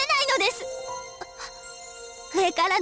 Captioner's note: gasp